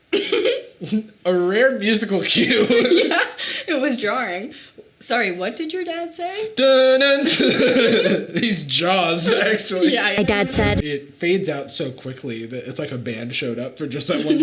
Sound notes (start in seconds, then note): 0.1 Sadie chuckles; 6.4 Jarvis imitating music; 7.2 both laughing; 10.8 enraged music playing